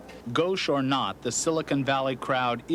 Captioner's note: voiceover